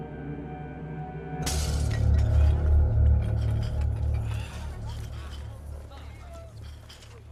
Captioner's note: background chatter; glass smashes